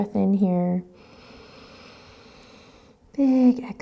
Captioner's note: inhaling